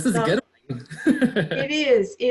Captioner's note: laughs